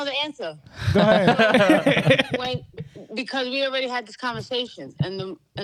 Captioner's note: laughing